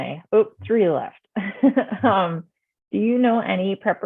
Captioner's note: chuckles